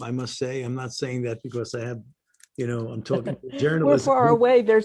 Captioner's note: laughter